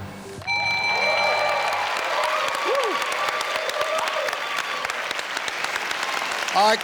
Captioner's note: audience applauding; bell dings